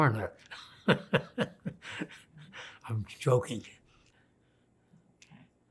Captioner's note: laughing